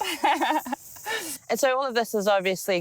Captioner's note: laughing